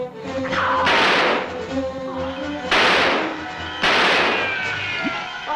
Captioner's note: gunshots